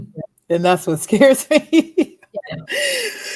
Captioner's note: laughs